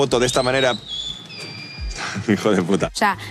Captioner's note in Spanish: Silbido